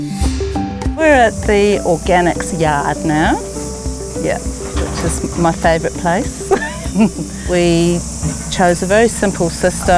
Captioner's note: laughs